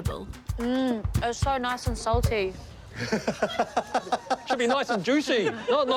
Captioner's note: laughter